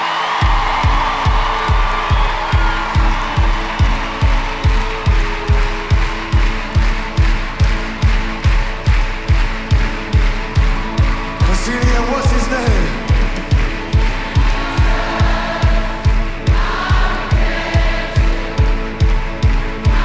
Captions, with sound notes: [cheering and applause] [crowd claps along to beat] Let's sing it again. What's his name? [crowd] Jesus, our redemption